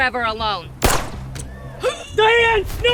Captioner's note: laser firing